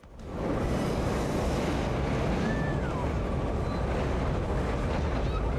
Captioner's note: train engine revving